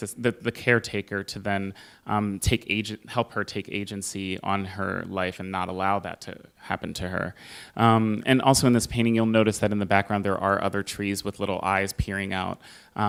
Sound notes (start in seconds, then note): none